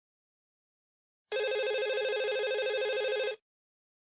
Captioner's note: phone ringing